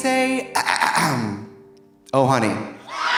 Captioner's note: Trixie clears throat